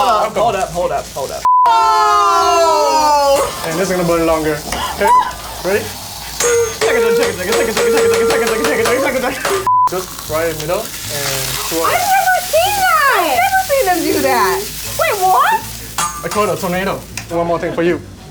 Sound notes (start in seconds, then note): 1.4 beep; 1.6 cheering; 4.6 metal clanking; 6.0 train noises; 9.6 beep